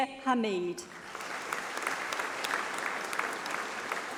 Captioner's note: applause